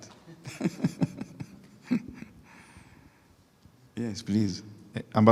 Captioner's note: laughing